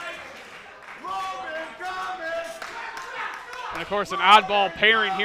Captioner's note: clapping